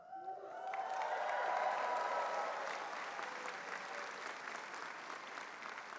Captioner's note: attendees cheering and applauding